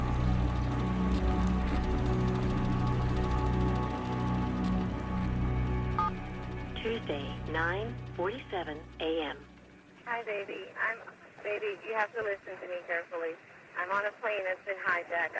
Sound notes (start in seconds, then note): 5.6 voicemail; 5.9 beeps